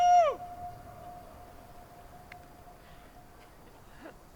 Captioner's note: audio echoing